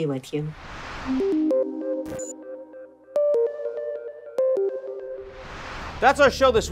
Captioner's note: air whooshing; digital music